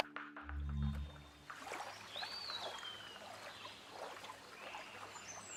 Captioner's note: water lapping; birds chirping